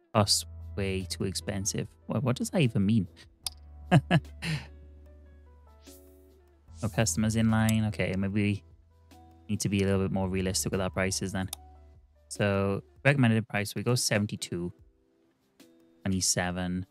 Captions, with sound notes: Oh, way too expensive. What does that even mean? (laughing) (soft music) Our customers in line. Okay, maybe we need to be a little bit more realistic with our prices then. So recommended price, we go 72. 27.